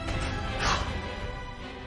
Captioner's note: exhales sharply